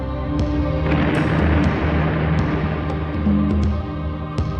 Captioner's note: explosion booming; tense music continues